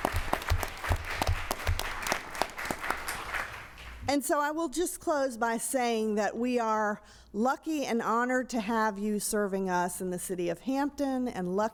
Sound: applause

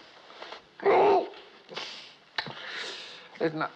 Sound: groans

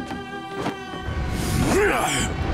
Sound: grunting

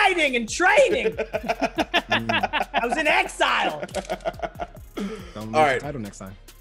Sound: laugh

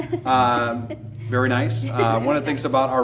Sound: laughing

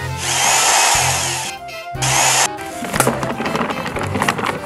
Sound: power drilling; upbeat music

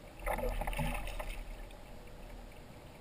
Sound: splash, splash

